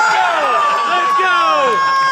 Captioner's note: everyone cheers